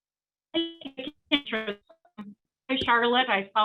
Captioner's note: static interference